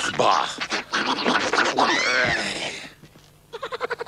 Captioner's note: grunting; squeaking and groaning; grunting and screaming; laughing